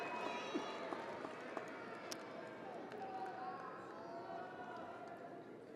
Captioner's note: audience applauding and cheering